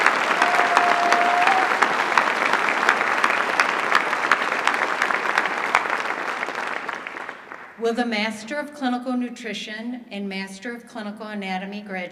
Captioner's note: applause